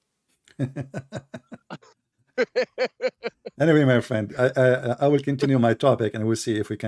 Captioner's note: Ketawa